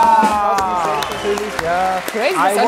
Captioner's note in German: Trommelwirbel; Applaus